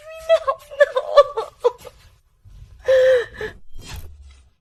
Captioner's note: laughs